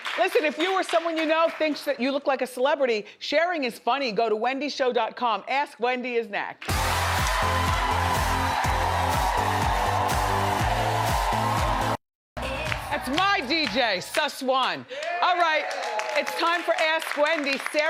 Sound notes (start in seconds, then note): 6.6 upbeat music; 8.5 audience cheers